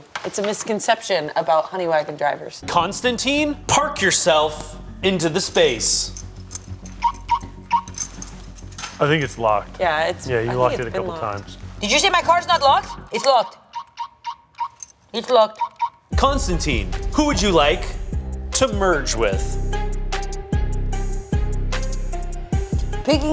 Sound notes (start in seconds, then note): 5.4 keys jangling; 6.9 car lock beeping; 13.7 car lock beeping; 19.5 tense rhythmic music